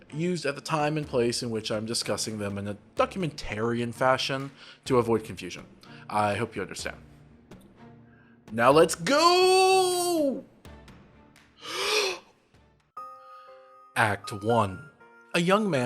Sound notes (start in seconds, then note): 12.4 deep breath